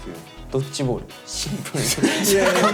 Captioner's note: laughs